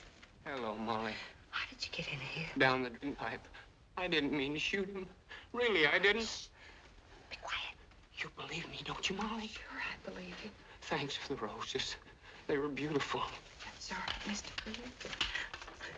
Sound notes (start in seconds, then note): 6.5 whispering